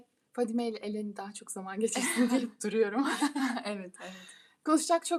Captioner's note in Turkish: kahkaha